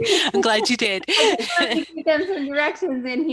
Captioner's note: laughter